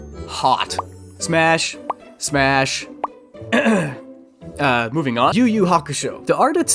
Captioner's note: clears throat